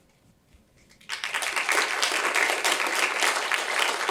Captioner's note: applause